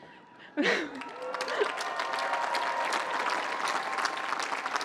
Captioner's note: cheering